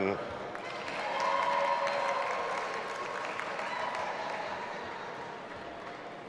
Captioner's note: audience applauding and cheering